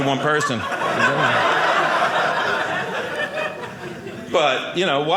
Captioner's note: audience laughing